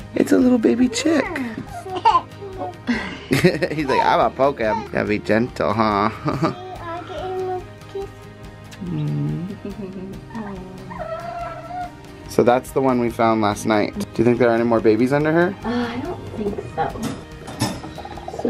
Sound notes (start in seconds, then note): 0.0 laughs; 1.0 baby laughs; 2.9 laughs; 8.6 kisses